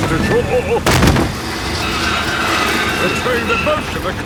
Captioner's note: thud